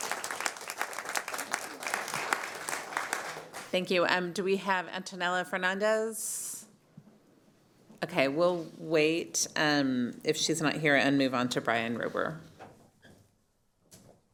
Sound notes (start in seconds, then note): 0.0 applause